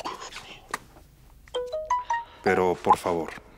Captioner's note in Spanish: Aviso de mensaje